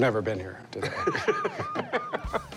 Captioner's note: laughing